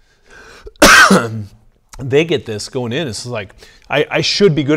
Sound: coughs

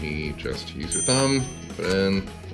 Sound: dinging

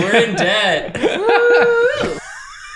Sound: chuckles

